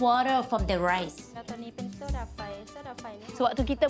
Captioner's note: foreign language